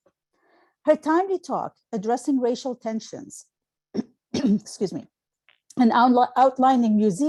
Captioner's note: clearing throat